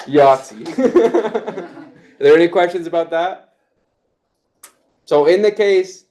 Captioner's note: laughs